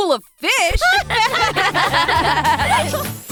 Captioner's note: laughter